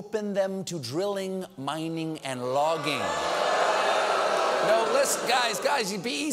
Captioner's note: audience reacts